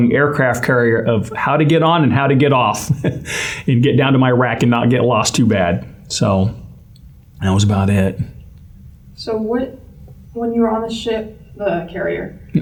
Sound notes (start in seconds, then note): 2.8 laugh